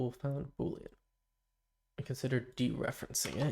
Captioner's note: silence